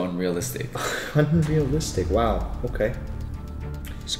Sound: scoffs

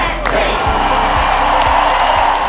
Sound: audience cheering

